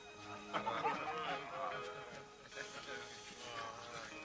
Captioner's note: men laughing